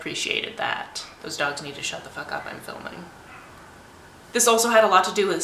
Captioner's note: dogs bark outside